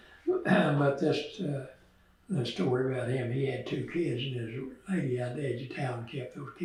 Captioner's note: laughs